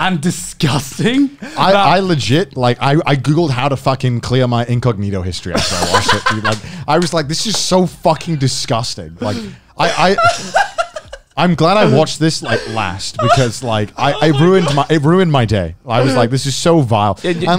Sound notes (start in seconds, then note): 5.5 laughs; 5.7 murmurs